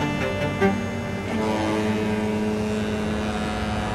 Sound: horn blasting

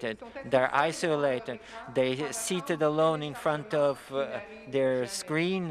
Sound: speaking French

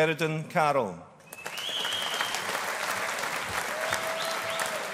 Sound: audience applauding

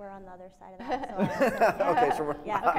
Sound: laughing

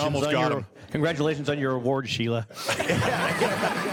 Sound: laughing

